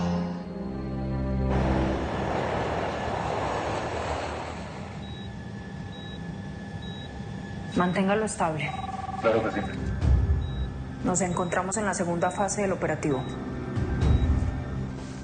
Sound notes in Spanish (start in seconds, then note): 5.0 Sonido de la telemetría; 8.6 Suena un celular